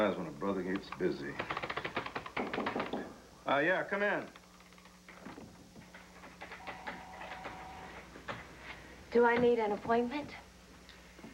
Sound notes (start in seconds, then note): 4.1 knock on door